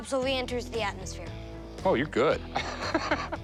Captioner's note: laughter